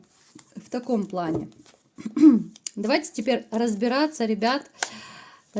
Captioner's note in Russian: откашливается